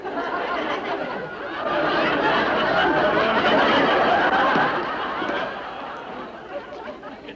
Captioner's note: audience laughing